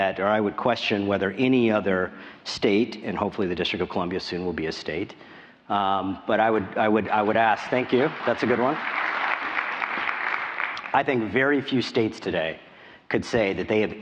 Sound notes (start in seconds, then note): 7.5 applause